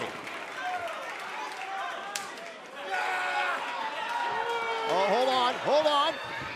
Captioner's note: crowd cheering